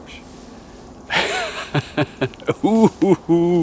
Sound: laughs

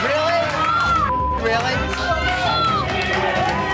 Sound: beep; crowd cheering

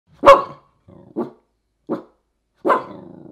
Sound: dog barks

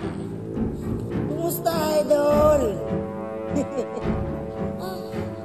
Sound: sniggers

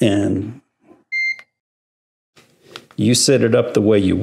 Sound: high pitched beep

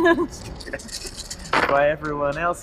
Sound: dice rattle

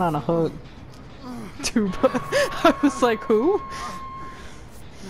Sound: laughs

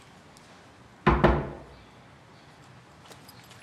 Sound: knock on door

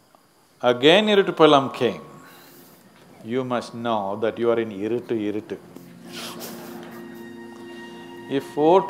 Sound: laughter

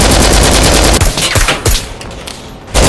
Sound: LMG Fire; suppressed carbine fire; LMG fire

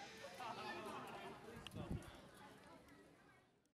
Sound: random chatter

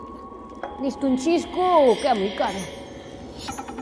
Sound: bells tinkling

